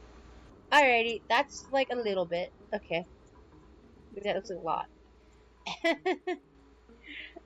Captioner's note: laughter